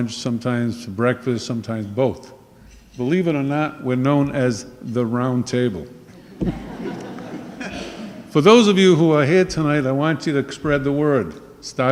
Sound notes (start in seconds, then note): 6.2 laughing